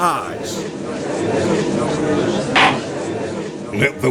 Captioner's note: gallery chattering